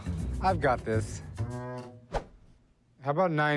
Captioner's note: swoosh